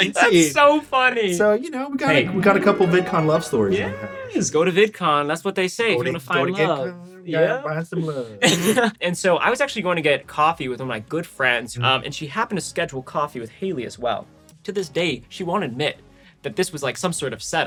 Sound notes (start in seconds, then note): 8.1 laughs